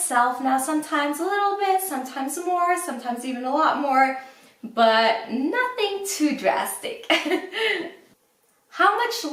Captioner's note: laughs